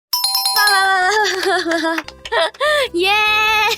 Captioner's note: applause and cheers